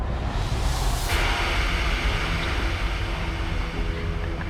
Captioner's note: TV Static